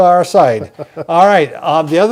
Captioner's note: laughing